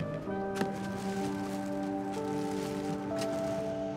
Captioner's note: bag ruffles